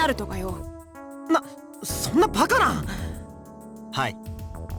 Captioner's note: gasp